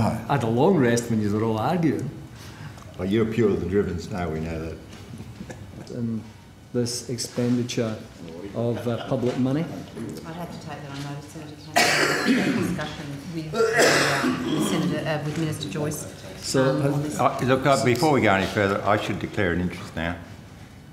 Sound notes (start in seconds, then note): 11.6 heavy cough; 13.5 heavy cough, I hope they're alright